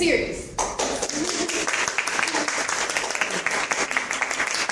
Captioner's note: audience clapping